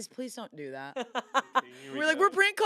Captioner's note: laughs